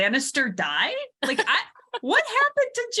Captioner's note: laughs